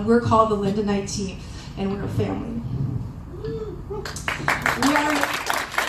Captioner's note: applause